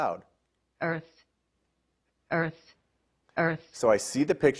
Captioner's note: Immersive Reader Voice